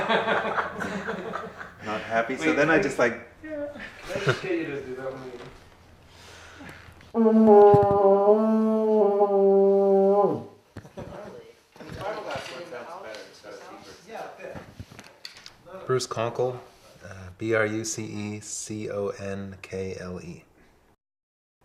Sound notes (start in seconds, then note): 0.0 laughter; 7.2 horn sounds